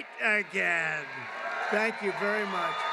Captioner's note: applause